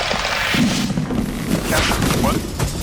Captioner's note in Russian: резиновое растягивание; фвуп